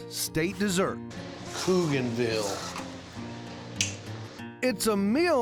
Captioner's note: clicks teeth